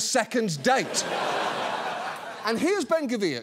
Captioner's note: audience laughs